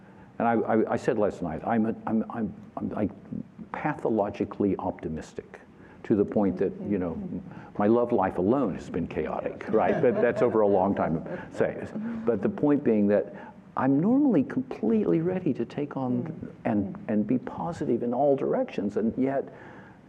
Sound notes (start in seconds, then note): 9.6 laughter